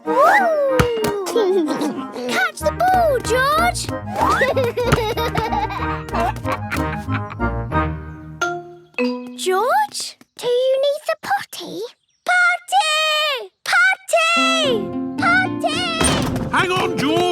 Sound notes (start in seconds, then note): 4.2 giggles